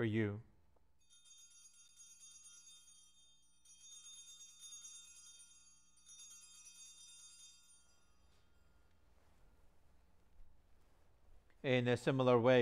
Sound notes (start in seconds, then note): 4.0 bell ringing